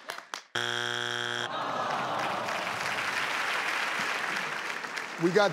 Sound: buzzer indicating wrong answer

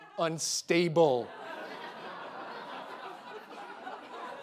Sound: audience laughing

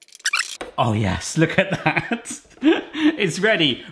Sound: laughs

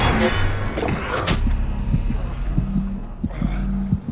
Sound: heartbeat thudding

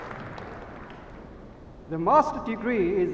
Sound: applauding

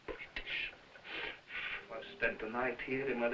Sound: blowing

